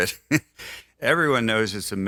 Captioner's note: laughs